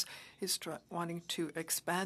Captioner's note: speaking French